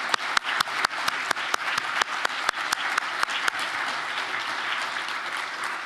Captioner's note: applause